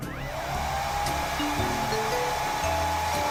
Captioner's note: Grito; Secadora zumbando